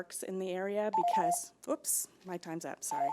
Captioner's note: timer trills